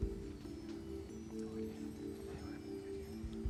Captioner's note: whispering